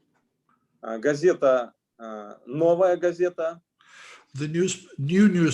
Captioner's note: speaking Russian language